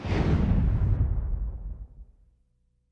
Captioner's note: explosion